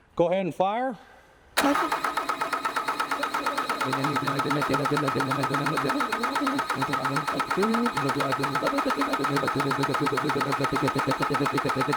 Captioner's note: machine running